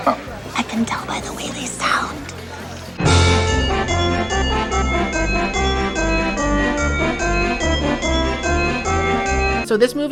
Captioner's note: whispering